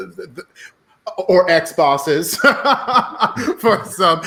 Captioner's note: laughing